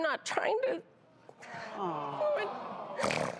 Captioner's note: audience sighs; snorts